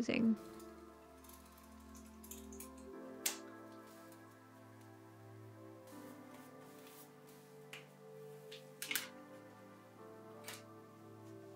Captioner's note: soft crafty noises